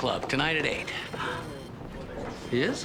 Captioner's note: gasping